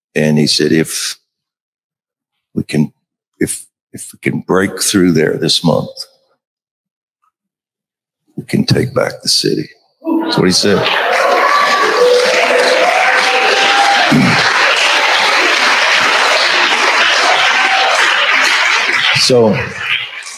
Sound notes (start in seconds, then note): 15.7 crowd applauding